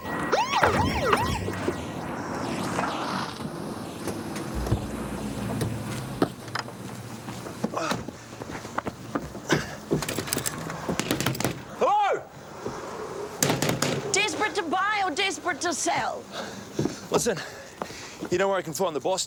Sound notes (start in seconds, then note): 0.0 siren pulsing; 9.2 knocking